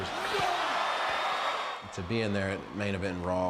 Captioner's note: crowd roaring